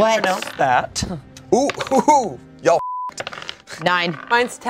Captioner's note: beep